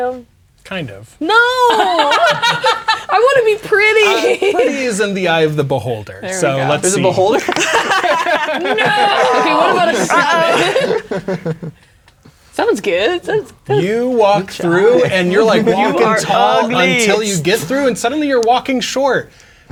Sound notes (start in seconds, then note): 1.6 players laughing; 4.4 laughing; 6.7 players laughing